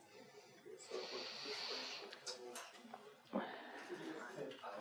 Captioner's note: background chatter